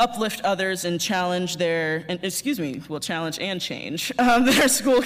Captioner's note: laughter